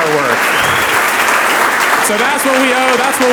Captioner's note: audience applauds